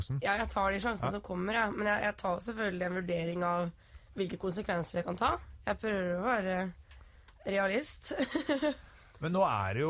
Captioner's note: laughing